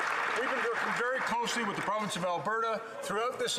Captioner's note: applause